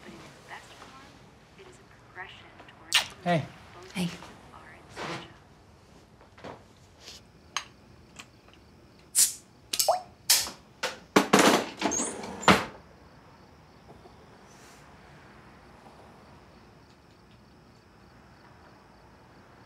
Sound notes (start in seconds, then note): 9.1 bottle hisses; 10.5 lid clacks; 11.2 drawer slams